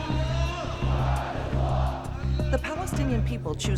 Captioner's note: crowd chanting